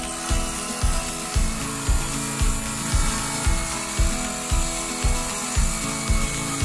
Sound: upbeat music; wood sawing

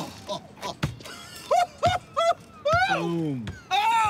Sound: laughs

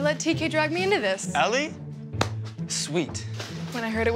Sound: claps hands

